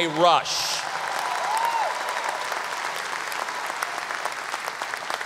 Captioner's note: audience applause